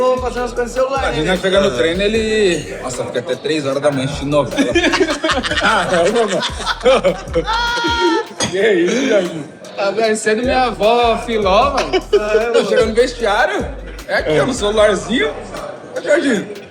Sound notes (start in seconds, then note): 6.4 laughter